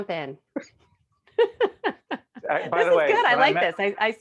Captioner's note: laughing